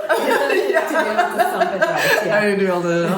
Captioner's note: laughter